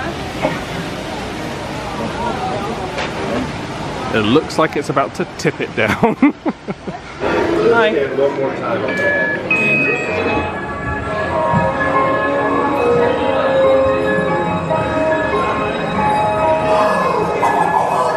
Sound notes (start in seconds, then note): 8.8 electronic beep; 11.0 ethereal music